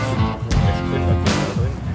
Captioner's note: murmuring